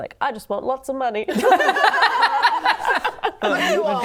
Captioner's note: laughing